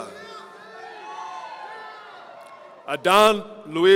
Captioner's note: audience cheering